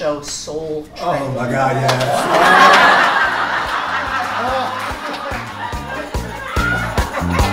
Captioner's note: crowd cheering; crowd laughing; upbeat music